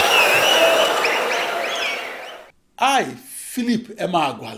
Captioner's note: wild applause and cheering for 22 seconds